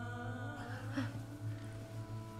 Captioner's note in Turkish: İnilti sesi